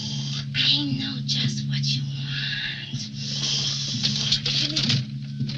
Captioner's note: snorting